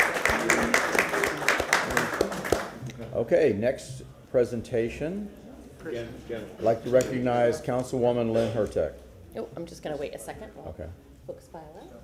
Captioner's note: applause